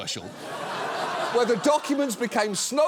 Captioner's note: audience laughs